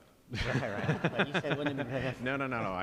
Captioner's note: laughter